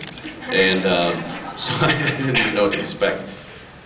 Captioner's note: laughing